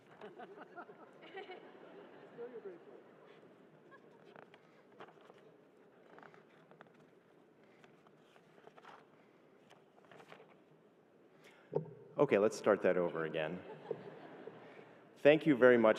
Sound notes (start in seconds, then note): 8.8 laughter